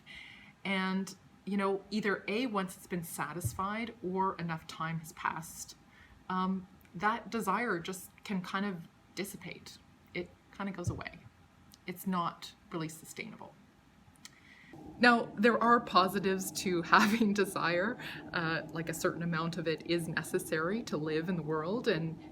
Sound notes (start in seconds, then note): 16.9 laughs